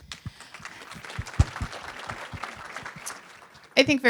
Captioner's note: applause